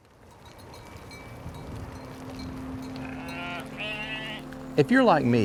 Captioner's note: gently chiming bells